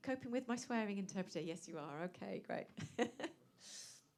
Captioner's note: laughs